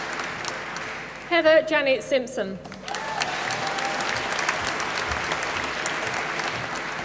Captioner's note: applause